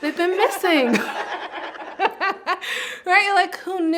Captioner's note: presenters laugh